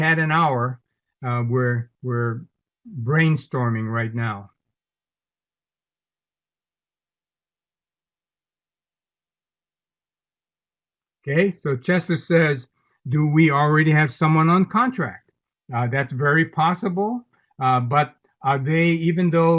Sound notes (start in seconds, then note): 4.6 silence